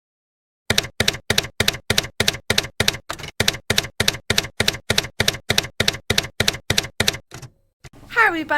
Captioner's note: typewriter keys clacking